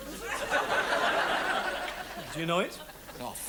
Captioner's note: audience laughs